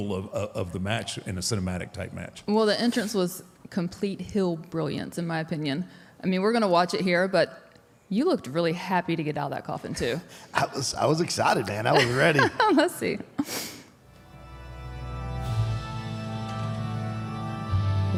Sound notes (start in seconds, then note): 11.8 Michelle laughs; 14.1 dramatic music